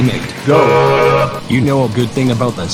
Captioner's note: horn sound